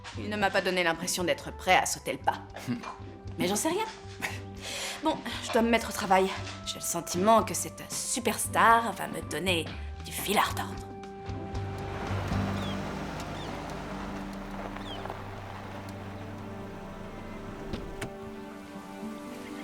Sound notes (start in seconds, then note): 4.1 chuckles; 12.1 birds chirping; 17.9 soft music